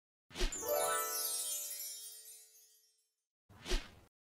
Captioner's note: chimes twinkling